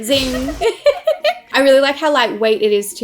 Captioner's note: laughs